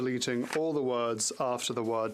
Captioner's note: speaking French